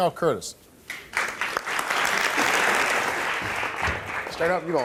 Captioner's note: audience clapping